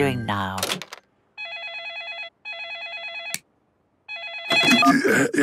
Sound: phone ringing

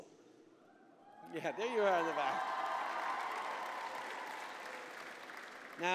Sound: applause

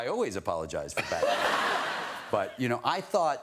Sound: audience laughter

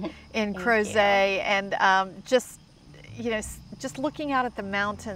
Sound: speaks French

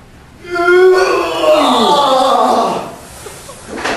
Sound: grunts; grunting

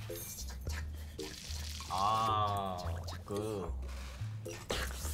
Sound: sizzling sound

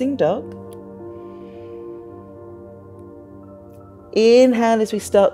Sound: inhales

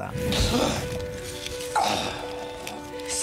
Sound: gasps and grunts

